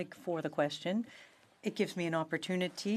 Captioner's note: speaking French